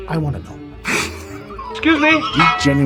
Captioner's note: laugh